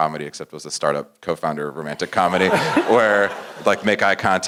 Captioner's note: laugh